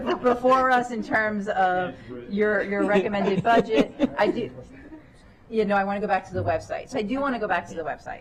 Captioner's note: laughter